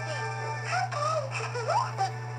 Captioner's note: giggles